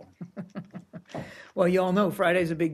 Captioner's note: laughter